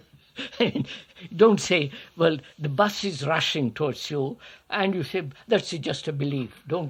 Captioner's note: laughs